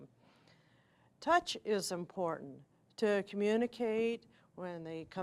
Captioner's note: normal voice